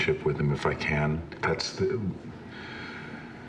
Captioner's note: sighs